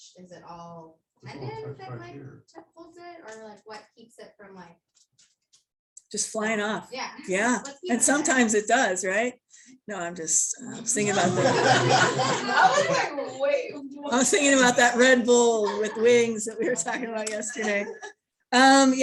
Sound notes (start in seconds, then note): 10.9 laughter